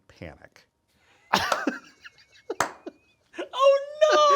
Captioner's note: Sam laughing; palms clapping